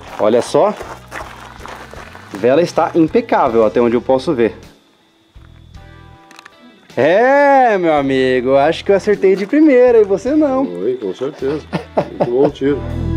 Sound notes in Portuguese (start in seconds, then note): 11.2 Risadas